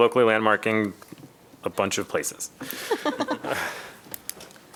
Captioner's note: laughter